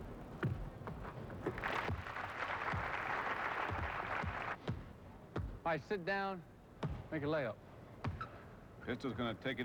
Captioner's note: applause